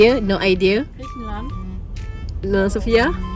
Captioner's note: speaking German